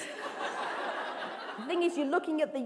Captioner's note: laughter